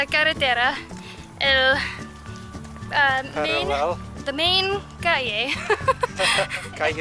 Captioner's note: laughter